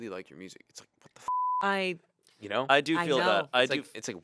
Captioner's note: beep